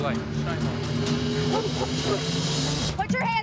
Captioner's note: dog barking